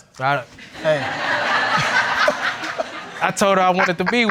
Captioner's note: all laughing